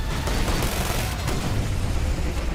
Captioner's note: gunshots